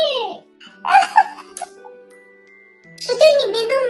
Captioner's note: laughs